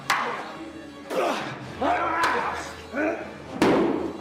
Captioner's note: grunting